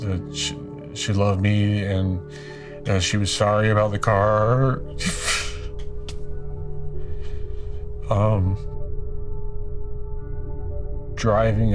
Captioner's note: sobs